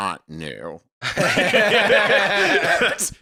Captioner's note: laughing